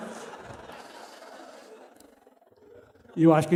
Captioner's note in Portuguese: risos